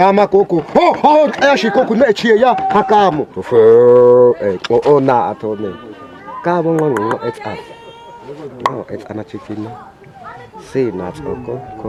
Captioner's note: Hadzabe tribal chief telling his hunting story in local "click language"